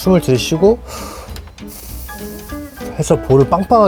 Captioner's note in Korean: 프후으ㅇ으후~